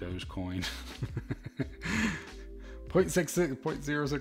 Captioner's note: laughs